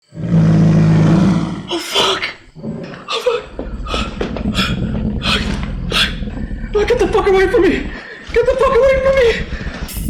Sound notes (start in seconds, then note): 2.2 heavy, grunting breaths; 3.8 guttural growling; 5.3 gasping